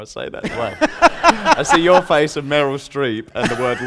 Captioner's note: laughter